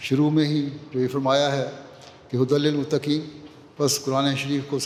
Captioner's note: Arabic